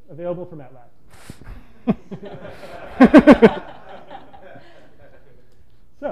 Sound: laughter

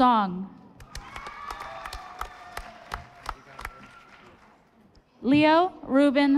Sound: audience applauding

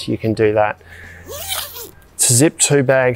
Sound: zip rasping

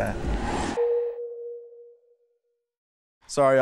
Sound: text dings

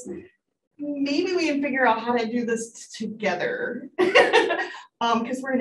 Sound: laughs

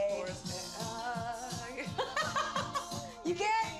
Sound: vocalizes, laughs

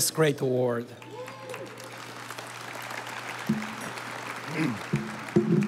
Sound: audience applauding

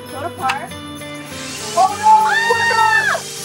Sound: machine whirring

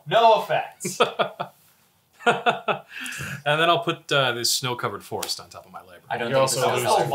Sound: laughs

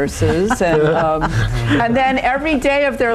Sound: laughing

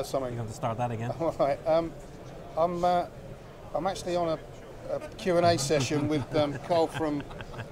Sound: laughter

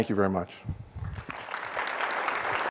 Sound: applause

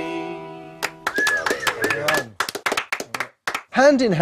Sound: applause

